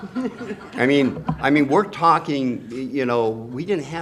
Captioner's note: laughter